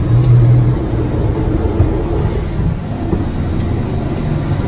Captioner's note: clicking buttons